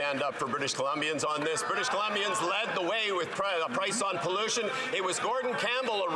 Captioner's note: some Applause